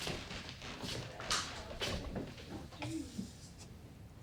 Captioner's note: creaking footsteps